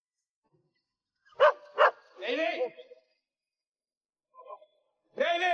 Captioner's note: dog barking